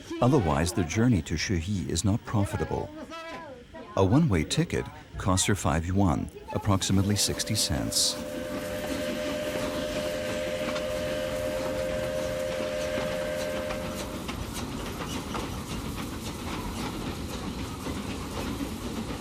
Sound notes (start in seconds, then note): 8.1 train engine revving